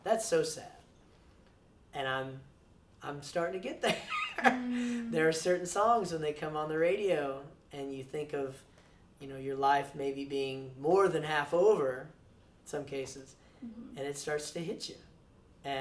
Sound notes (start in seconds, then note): 3.9 laughs